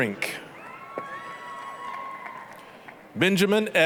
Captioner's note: applause, cheering